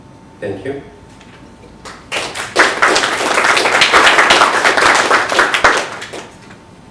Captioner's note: applause